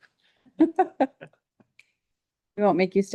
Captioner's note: person laughing